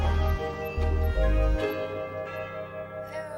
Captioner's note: doorbell rings